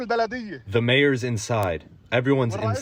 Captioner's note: through translator